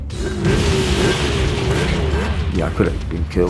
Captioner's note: revving bike